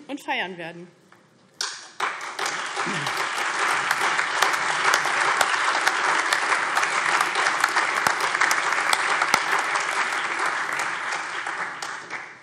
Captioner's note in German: Allgemeiner Beifall